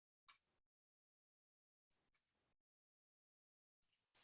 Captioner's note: mouse clicking